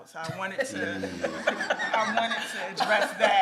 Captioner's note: everyone laughs